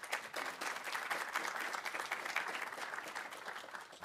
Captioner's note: audience applauding